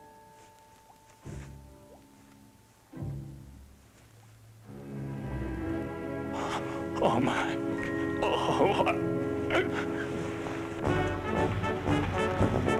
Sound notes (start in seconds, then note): 8.2 gagging; 9.1 band music playing